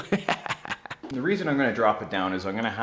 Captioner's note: laughs